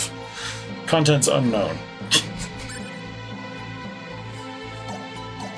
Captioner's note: chuckles